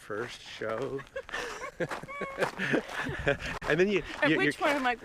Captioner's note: laughing